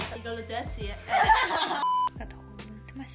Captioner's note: laughs